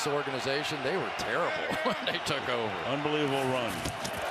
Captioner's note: laughs